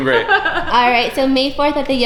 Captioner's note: laughter